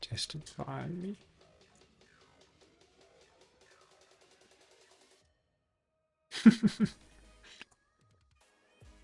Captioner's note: laughs